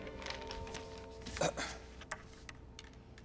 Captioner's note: clears throat